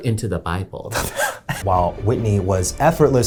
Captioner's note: laughs